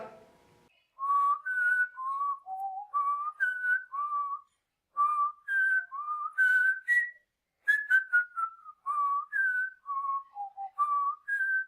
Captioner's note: whistling